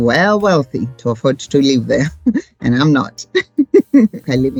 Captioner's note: laughs